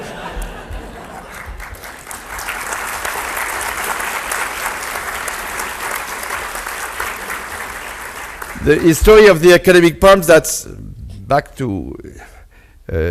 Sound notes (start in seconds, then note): 0.0 audience laughs; 2.6 audience applauds